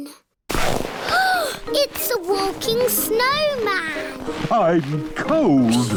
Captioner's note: gasps